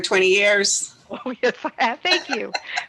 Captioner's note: laughs